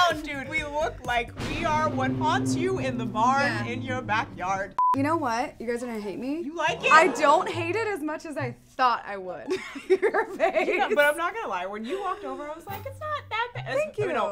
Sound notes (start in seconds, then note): 4.7 beep; 9.5 laughs